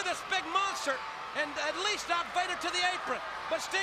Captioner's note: crowd chatters